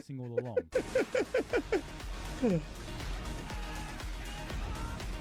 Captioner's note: laughing